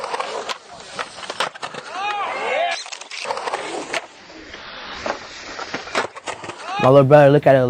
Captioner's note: wheels clattering; distant cheering